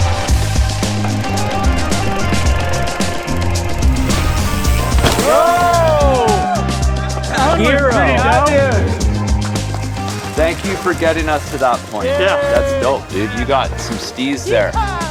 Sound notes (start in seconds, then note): 0.1 upbeat groove music; 5.2 cheers